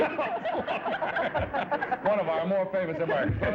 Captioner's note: stammering; laughter